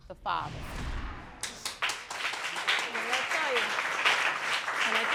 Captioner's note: audience applauding